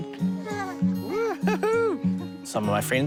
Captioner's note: baby coos